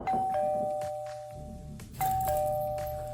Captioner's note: doorbell rings